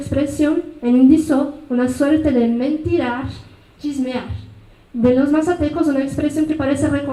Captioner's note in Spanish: habla en mazateco